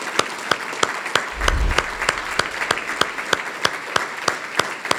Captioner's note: logo whooshes